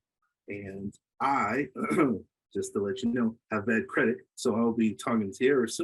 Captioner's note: clears throat